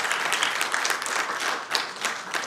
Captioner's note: applause